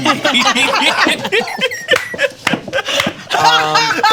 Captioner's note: heroes laugh